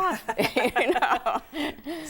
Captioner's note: laughing